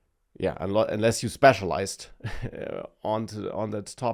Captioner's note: laughs